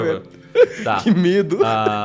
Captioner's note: laughs